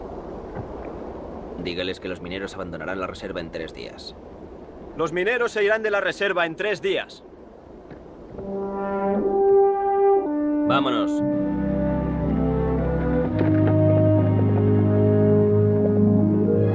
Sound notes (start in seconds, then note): 5.1 Ramirez speaks Spanish; 8.7 moody orchestral music